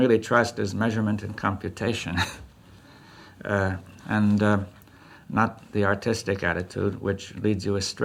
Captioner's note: laughs